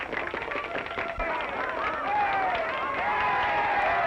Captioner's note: crowd cheering